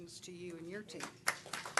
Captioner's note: applause